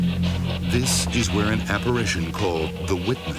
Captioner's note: voiceover